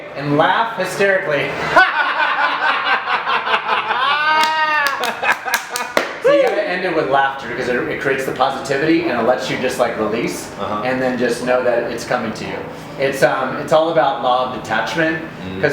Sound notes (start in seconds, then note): 1.6 laughs loudly